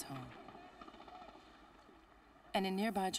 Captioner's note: gunfire